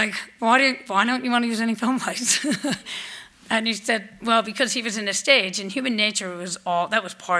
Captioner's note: laughs